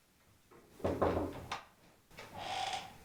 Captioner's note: knocks; door creaks